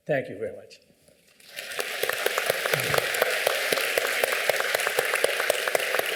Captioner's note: applause